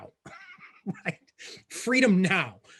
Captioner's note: laughing